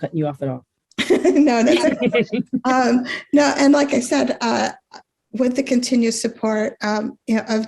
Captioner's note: laughs